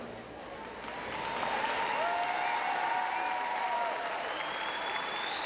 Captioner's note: audience applauds